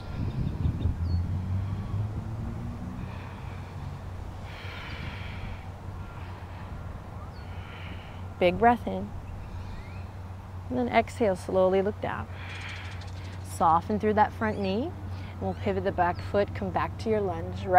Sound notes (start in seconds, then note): 0.1 blows out breath; 0.1 takes deep breath; 7.3 takes deep breath; 12.3 blows out breath